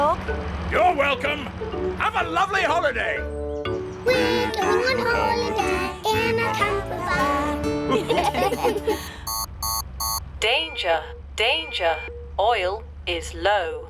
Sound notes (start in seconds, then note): 7.8 laughter; 9.0 beeping